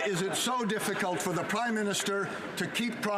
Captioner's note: some Laughter